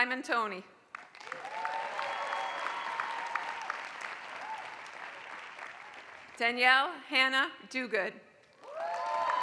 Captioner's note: applause; applause